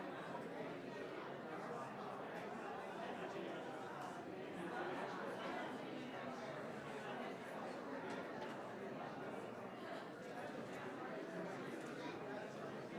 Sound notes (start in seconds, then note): 5.0 crowd chattering